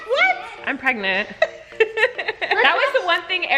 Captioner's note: laughing